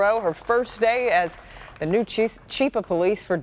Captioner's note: applause